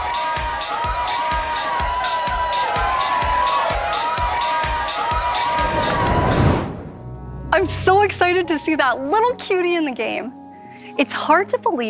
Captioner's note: applause